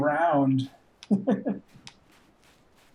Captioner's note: chuckles